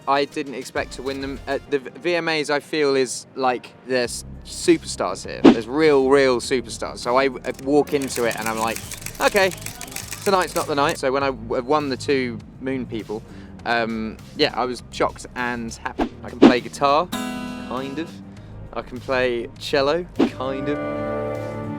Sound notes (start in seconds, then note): 7.4 camera shutters clicking; 17.2 guitar chord rings out